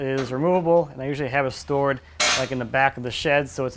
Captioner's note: clanking metal